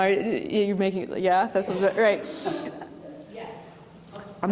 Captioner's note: light audience laughter